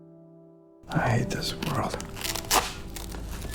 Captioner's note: voiceover